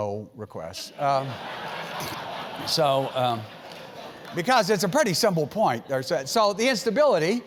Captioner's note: laugh